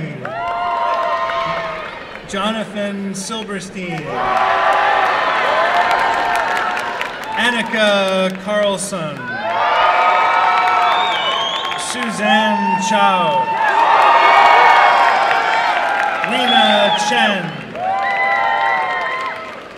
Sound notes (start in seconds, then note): 0.2 applause and cheering; 4.0 applause and cheering; 9.2 applause and cheering; 17.5 applause and cheering